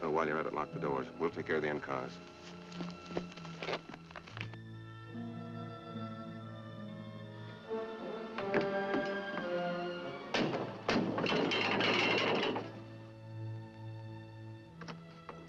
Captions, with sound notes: Then while you're at it, lock the doors. We'll take care of the end cars. (brake wheel rattling)